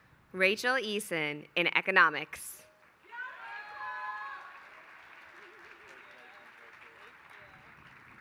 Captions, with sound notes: Rachel Eason in economics. [APPLAUSE]